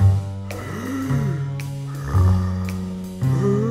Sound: evil breathing

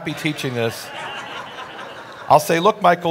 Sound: audience laughing

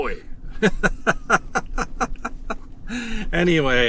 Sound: laughter

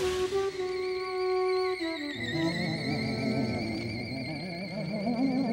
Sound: ghostly moaning

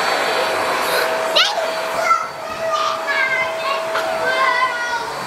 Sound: air pump blows; excited kid gibberish

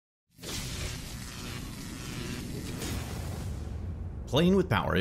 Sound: electricity crackling

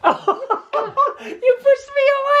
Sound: laughs

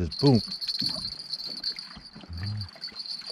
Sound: jangling

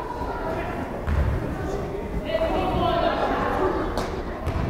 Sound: crowd chattering

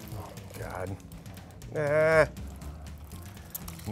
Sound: whines

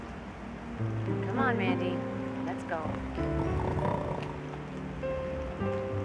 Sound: Elmer snores

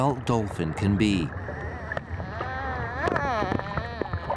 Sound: whines

